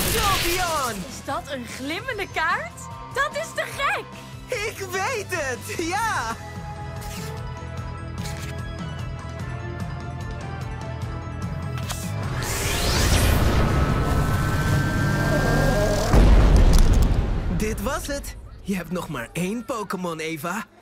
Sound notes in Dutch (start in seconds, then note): 12.3 zoemend geluid; 14.1 explosie